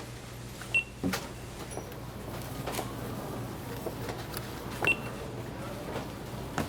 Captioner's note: scanner beeping